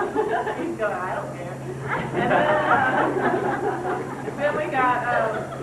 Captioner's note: laughs